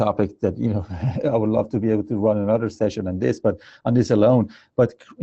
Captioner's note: laugh